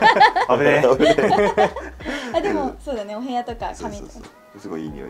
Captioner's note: laughs